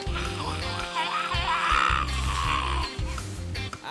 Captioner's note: scream